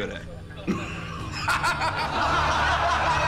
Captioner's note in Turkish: Gülme sesi; Gülme sesleri